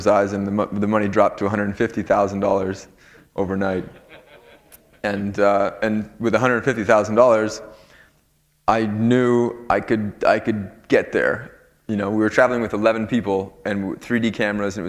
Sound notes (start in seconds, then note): 3.7 laughter